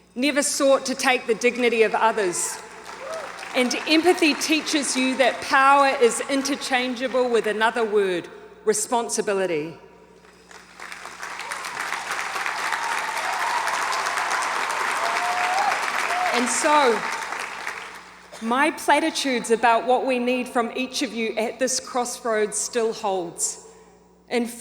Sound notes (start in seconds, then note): 10.2 audience applauds and cheers